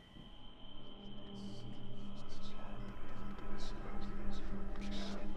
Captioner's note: ominous music; whispering, ghostly voices